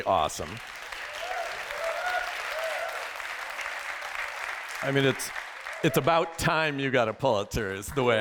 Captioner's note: applause